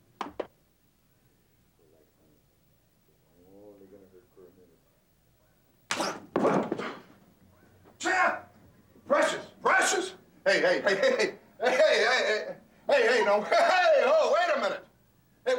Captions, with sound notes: (fist connecting) Champ! Precious! Precious! Hey, hey, hey, hey. Hey, hey, hey. Hey, hey, no. Hey, oh, wait a minute.